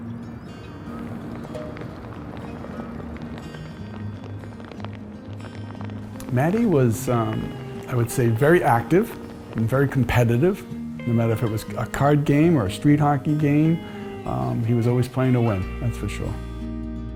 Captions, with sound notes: (gentle music) (rain pattering) - Matty was, I would say, very active and very competitive. No matter if it was a card game or a street hockey game, he was always playing to win, that's for sure.